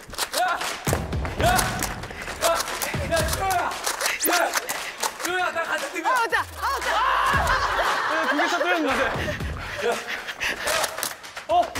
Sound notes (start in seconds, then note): 0.6 1 more balloon pops